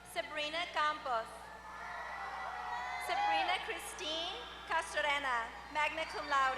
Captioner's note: applause